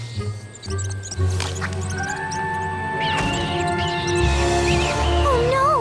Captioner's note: squeaks